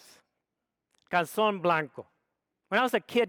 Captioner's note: speaks foreign language